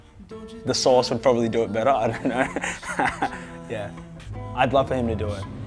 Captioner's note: laughs